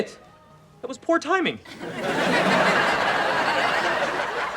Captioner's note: laughs